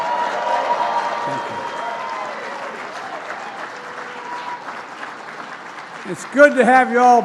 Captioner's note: cheers and applause